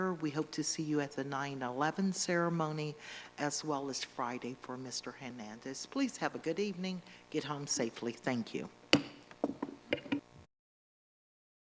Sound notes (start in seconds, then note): 8.9 gavel